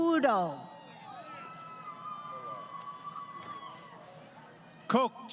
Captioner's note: crowd Cheering